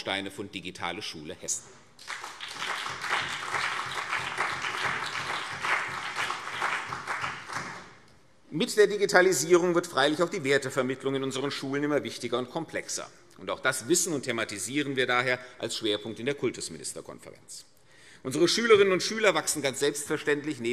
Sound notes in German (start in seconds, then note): 2.0 Beifall CDU und BÜNDNIS 90/DIE GRÜNEN